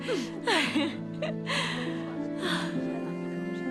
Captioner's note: laughs